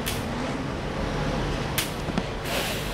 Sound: 'slap'

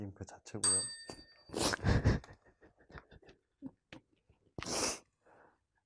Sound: chime

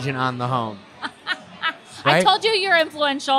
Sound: laughing

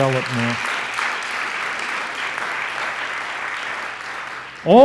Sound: audience applauds

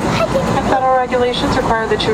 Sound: exclaims

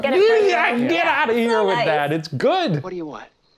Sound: stammering

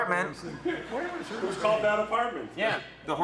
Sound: audience laughs

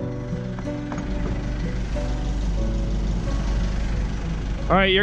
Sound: boat engine rumbling

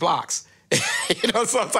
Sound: laughs

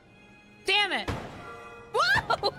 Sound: thunk

